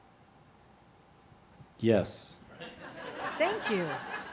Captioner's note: laughing